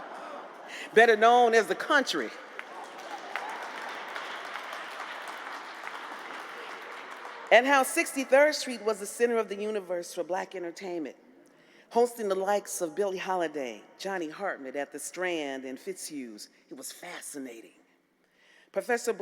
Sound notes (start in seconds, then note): 2.1 applause